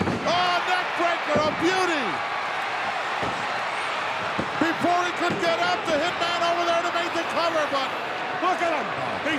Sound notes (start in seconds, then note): 2.1 crowd cheering